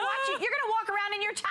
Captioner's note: laughter